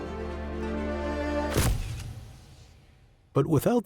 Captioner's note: camera shutter clicking